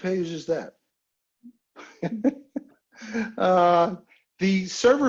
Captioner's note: laughing